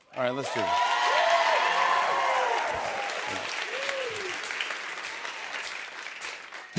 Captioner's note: cheers and applause